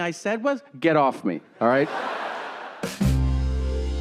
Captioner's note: audience laughing; smooth pop music